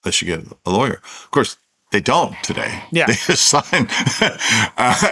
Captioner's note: laughs